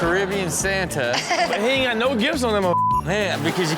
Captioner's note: beep